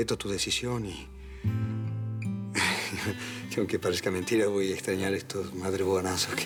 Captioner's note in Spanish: Risa nerviosa